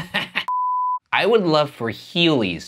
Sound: laughs; extended beeping

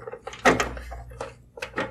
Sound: clunk

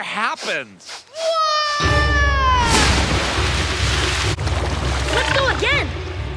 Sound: Aang screaming

